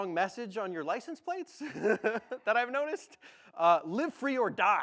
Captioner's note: laughs